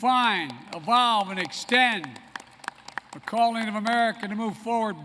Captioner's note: applause